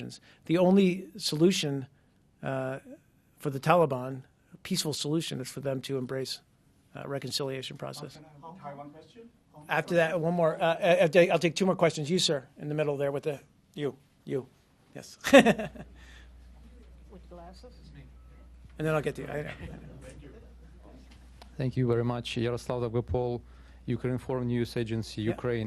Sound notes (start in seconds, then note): 15.2 laughter